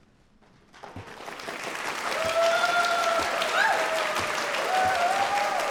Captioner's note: audience cheering